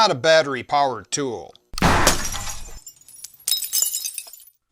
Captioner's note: shot, glass breaks